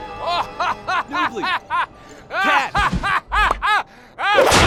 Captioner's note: laughs maniacally; Gaylord_Steambath's laughter continues